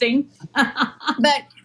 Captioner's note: laugh